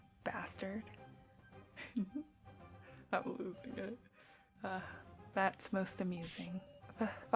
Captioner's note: giggles